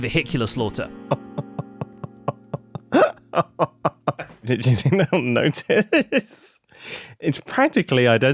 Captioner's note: nervous chuckle